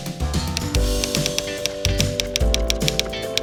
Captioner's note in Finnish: kirjoituskoneen naputusta